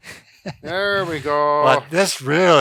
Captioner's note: laughs